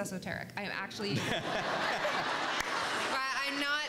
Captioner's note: everyone laughs